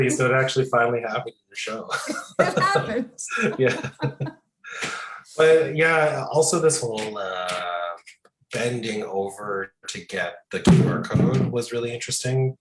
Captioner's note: laughing continues